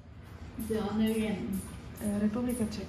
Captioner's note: in Spanish